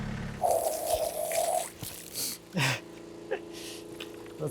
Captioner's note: water sloshing